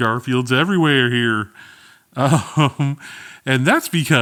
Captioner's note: laughing